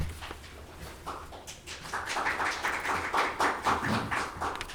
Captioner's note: audience clapping